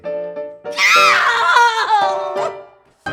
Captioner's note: screamming